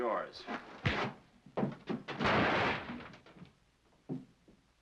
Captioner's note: crash